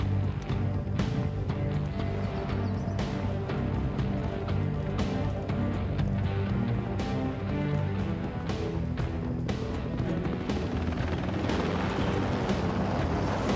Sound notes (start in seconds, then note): 5.1 helicopter whirring